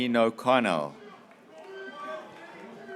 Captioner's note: graduates cheering